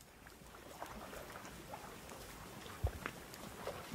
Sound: sound of birds chirping and bubbly water flowing

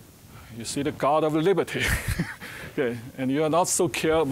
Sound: chuckling

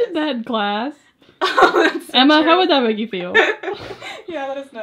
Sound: laughs

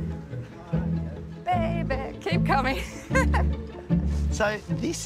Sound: laughs

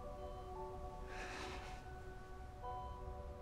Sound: sighs

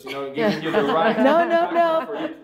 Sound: all laughing

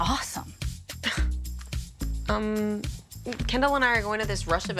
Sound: Rooney scoffing

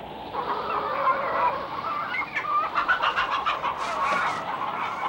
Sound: chickens clucking

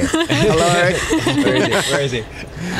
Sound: laughter

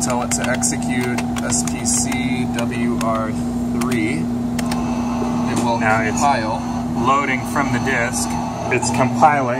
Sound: whirring and beeping noises

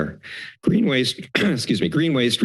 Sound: clears throat

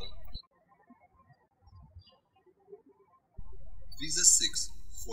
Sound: birds chirping

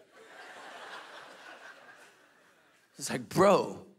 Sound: congregation laughing

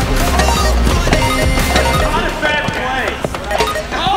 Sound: beeping

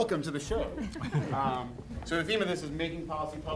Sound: laughing

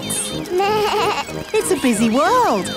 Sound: bleats

